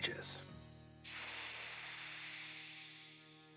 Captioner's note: exhales